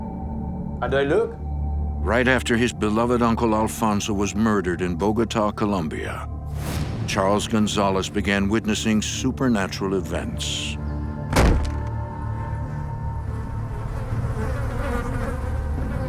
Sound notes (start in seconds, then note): 11.3 loud thump; 13.3 flies buzzing